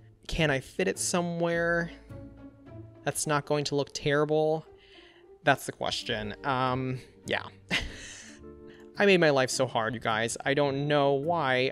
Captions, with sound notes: Can I fit it somewhere... that's not going to look terrible? That's the question. Um, yeah! (Laughs) I made my life so hard, you guys, I don't know why